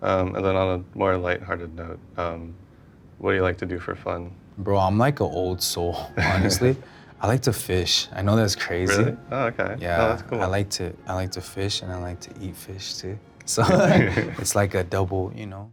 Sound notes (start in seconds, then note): 6.2 interviewer chuckles; 13.6 both laugh